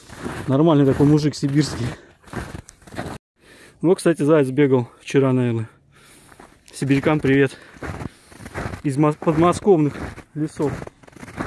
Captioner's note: snow crunch